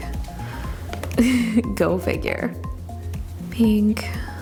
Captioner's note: giggles